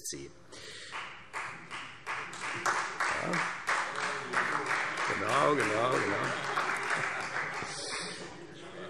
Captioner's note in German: Beifall